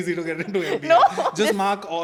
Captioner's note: laughs